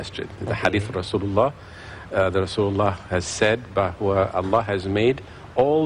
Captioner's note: non-english speech